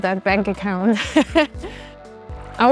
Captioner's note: laughs